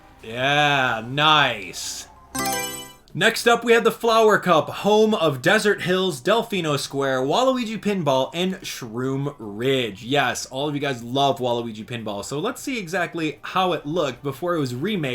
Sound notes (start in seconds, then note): 2.3 Mario Selection Sound